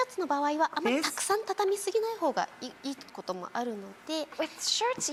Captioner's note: speaking in foreign language